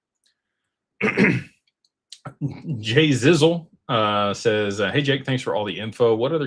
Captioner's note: clears throat and cough